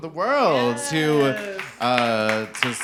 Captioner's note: audience applauding